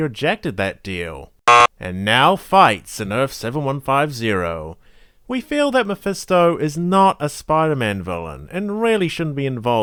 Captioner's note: buzzer sound